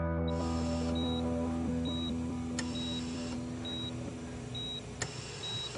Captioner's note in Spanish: Bip en el monitor